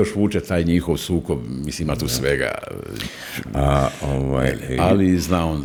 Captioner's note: snorting